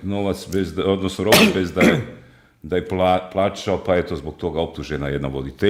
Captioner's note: he coughs